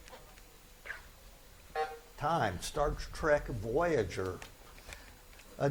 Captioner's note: buzzer buzzes